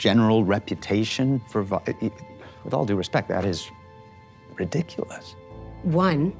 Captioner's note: stammers